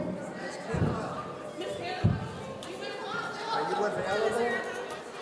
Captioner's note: people in the audience conversing